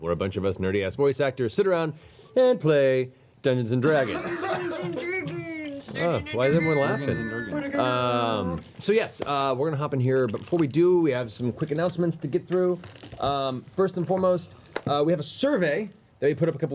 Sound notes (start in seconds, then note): 3.9 laughter